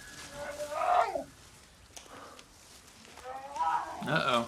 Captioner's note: bear roaring